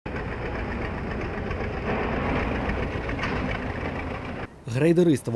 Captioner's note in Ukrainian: Звук тракторного двигуна